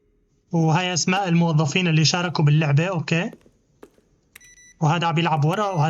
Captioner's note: footsteps; beeping